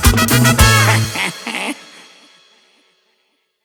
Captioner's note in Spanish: je je je